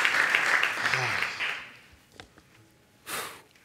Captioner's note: sighs; exhales